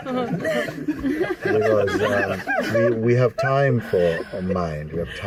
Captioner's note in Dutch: gelach